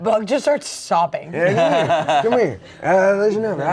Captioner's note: laughs